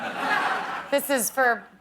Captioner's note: laughter